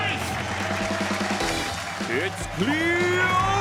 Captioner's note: applause